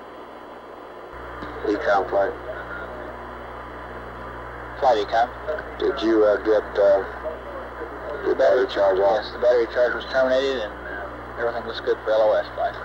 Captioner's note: mission Control Audio